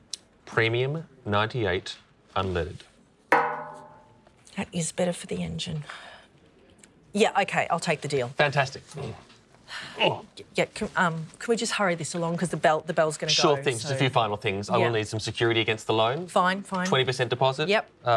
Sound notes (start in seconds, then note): 3.3 clang; 9.8 groans